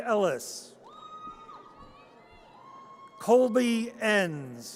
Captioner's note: audience cheers